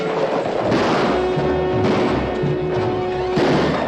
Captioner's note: frantic music; firing